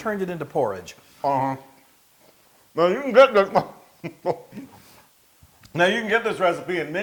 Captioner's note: laugh